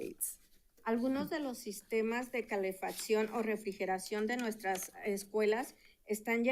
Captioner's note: speaking in Spanish